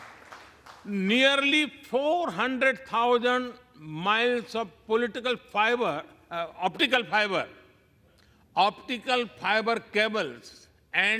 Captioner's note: applause